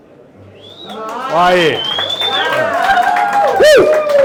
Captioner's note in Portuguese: Aplausos